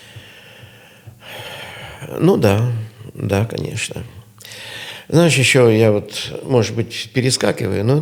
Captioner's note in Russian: вздыхает